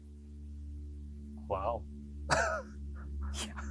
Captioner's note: laughs